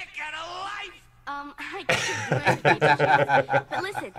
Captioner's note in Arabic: يضحك